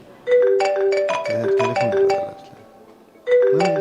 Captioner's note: phone-ringing